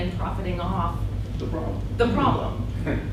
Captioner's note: voiceover